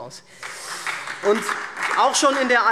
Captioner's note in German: Beifall SPD und DIE LINKE